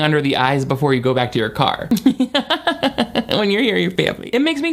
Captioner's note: chuckles